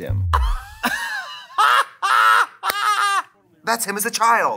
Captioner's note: laughs